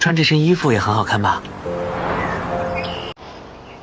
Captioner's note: A gust of wind blows through, as if Ah Qing is responding